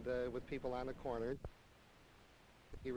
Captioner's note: silent